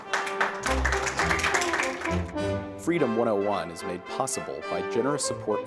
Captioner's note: applause